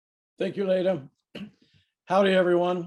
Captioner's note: clears throat